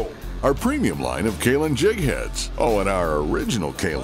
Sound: voiceover

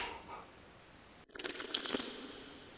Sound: Distorted Roblox bloxy cola sound effect

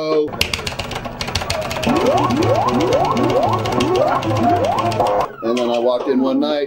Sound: buttons clicking; game chiming

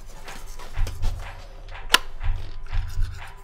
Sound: light switch snaps

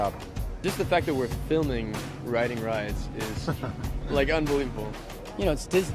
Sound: laugh

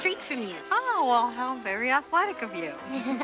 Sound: giggles

